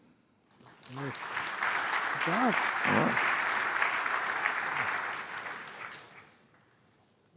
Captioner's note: applause